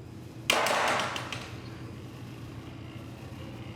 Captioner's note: banging